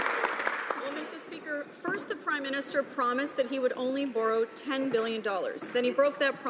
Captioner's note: applause